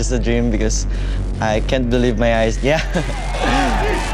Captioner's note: crowd chanting; chuckles